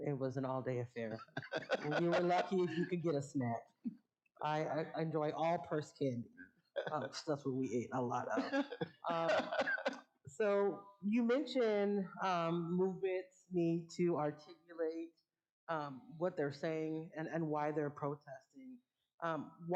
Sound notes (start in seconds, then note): 1.1 laughing